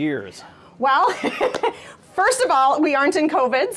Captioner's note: laughs